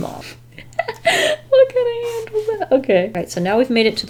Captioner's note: laughs